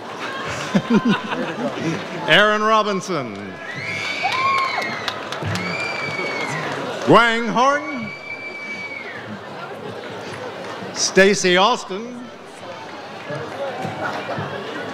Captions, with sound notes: (laughs) Erin Robinson. (audience cheers) Wang Horn. Stacy Austin.